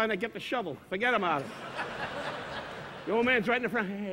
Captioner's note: audience laughing